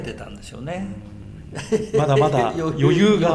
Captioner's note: laughs